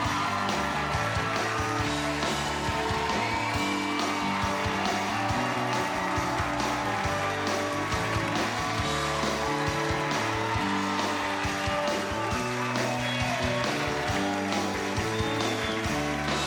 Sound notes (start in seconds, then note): 2.1 cheers and applause